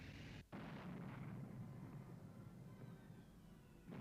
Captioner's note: tanks firing